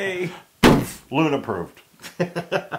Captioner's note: laugh